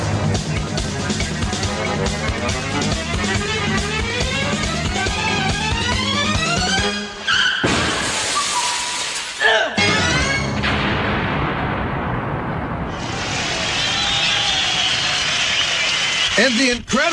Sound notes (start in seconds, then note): 7.0 car screech, crash, grunt; 13.2 applause